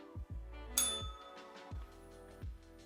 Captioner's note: bell rings